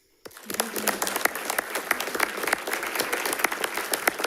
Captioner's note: all applauding